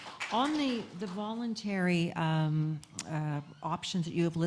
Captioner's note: applause